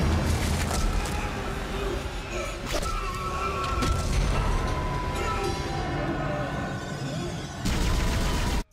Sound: screaming and struggling

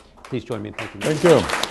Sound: applause

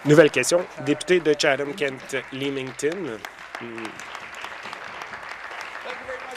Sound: some Applause

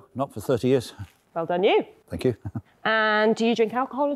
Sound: chuckling

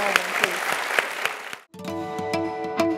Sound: applause

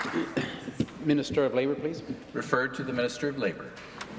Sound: applause

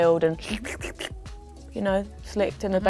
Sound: makes slicking noises

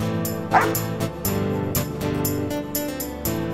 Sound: dog Barks

